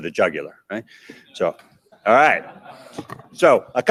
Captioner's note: audience laughs